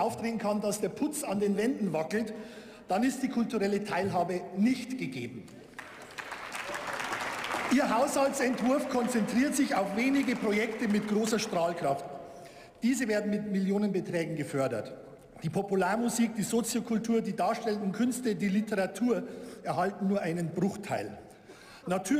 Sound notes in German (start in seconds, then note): 5.5 Beifall